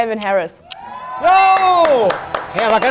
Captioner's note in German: Jubel